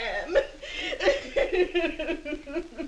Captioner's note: sobbing